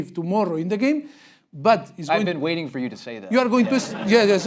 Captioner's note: laugh break